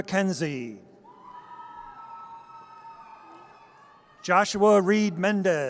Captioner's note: audience cheers